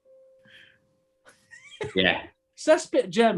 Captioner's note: giggling